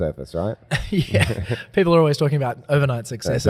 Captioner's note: laughs